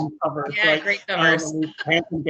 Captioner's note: laughing